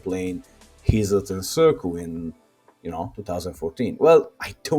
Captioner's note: mic bump